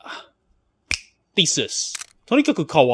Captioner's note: fingers snapping